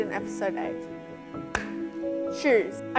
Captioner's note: clap